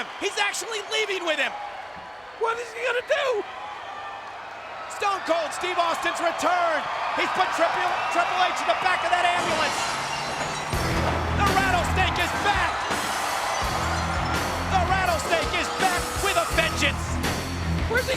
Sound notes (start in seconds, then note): 9.4 glass shatters; 10.9 upbeat music; 12.6 audience cheers